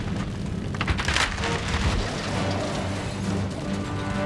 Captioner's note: plane shattering